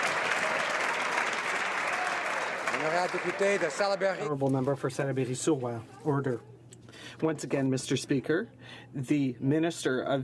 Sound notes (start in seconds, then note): 0.0 some Applause